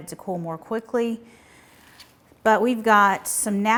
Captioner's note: cabbage rustling